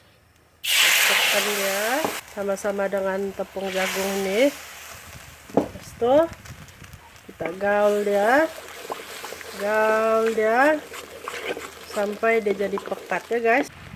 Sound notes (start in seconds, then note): 0.5 sizzling